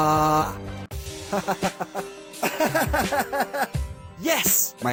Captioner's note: laughter